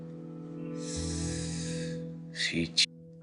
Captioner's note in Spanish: Inhala